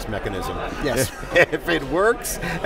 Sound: laughs

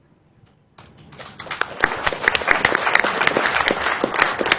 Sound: applause

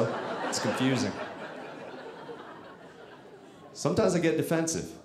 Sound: audience laughing

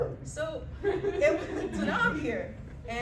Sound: laughter

